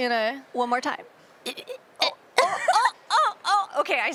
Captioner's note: is imitating the sounds of creatures